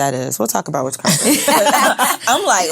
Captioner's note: all laughing